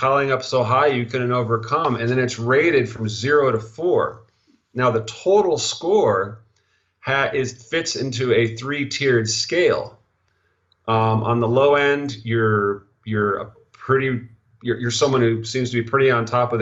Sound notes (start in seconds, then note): 13.7 stuttering